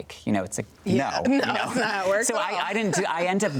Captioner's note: both chuckling